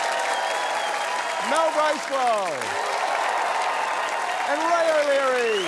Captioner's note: cheering, applause